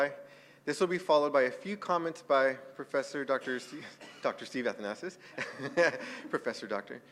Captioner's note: laugh